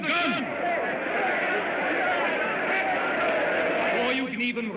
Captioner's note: crowd clamors